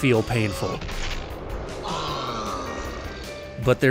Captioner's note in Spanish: Bear Hugger gruñe